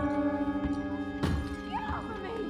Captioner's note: something glass breaks